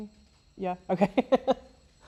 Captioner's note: laughs